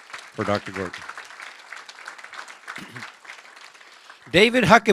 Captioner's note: applause